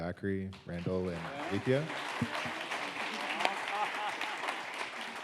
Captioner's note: audience applauds